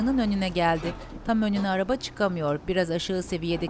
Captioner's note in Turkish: El freni sesi